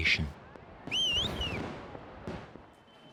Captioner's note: whistling